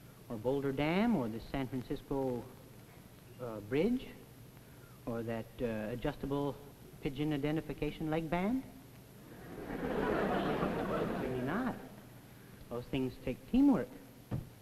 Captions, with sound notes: or Boulder Dam, or the San Francisco, ah, bridge? Or that adjustable pigeon identification leg band? [Audience laughs] I should say not. Those things take teamwork.